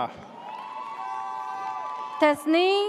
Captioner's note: audience cheers